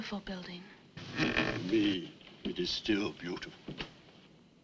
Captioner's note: door creaks open